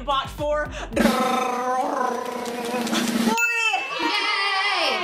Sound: mimics; drum rolls; people cheering

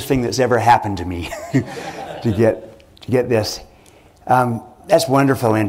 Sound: laughter

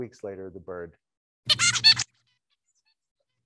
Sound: bird singing

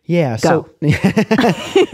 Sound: laughter

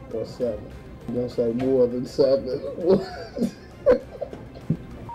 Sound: laughing; beeping

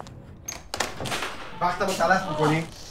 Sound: speaking foreign language

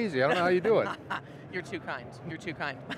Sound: laughs

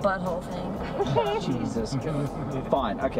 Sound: everyone laughs

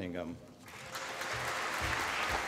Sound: applause

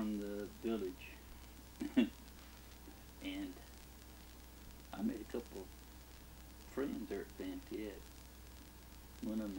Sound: chuckles

